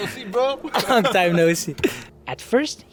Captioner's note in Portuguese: risos